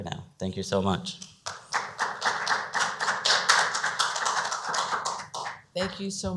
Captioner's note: clapping